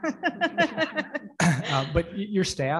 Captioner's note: everyone laughs